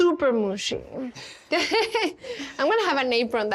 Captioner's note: laughs